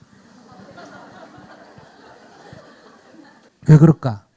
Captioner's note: audience Laughter